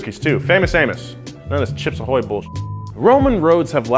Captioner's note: beep